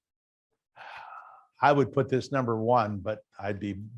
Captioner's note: sighs